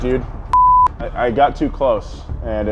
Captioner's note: beep